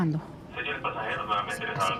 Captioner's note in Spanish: Voz en el altavoz